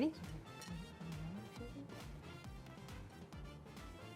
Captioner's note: whispers